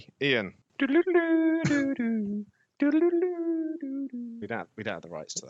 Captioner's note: does vague, non-copyright enforceable humming